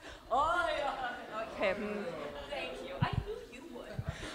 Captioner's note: audience grunts together